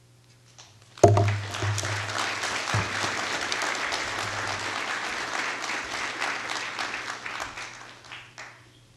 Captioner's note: applause